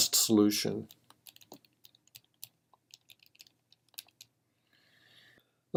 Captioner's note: typing